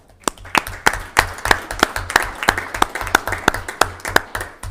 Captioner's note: audience clapping